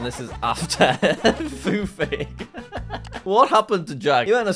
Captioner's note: laughs